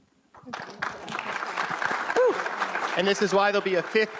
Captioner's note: audience applause